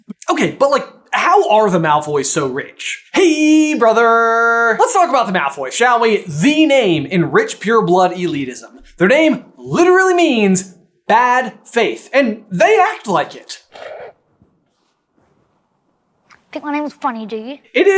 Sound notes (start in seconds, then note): 13.6 snorts